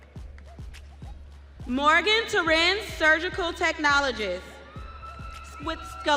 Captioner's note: audience cheering